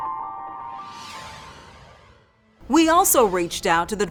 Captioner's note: logo whooshing